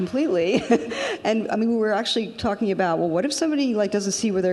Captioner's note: laughs